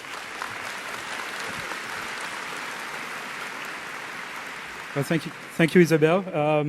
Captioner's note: applause